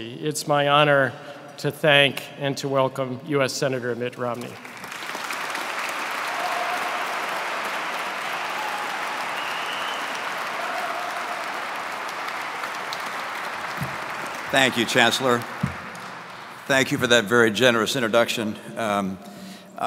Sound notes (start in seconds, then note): 5.1 audience clapping